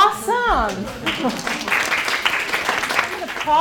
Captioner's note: clapping